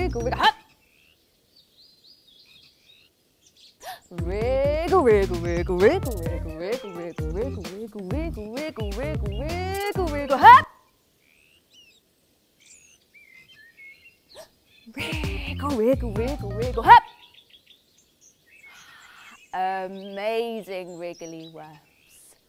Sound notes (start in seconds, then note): 2.3 silence, only the birds tweeting and trees in the breeze; 12.1 silence - Birds tweet, wind blows